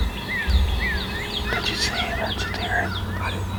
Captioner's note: whispering